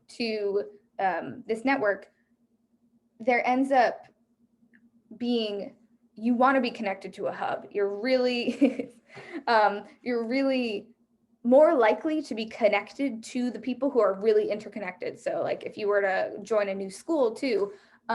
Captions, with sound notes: to this network, there ends up being... You wanna be connected to a hub. You're really, (chuckles) more likely to be connected to the people who are really interconnected. So like, if you were to join a new school too,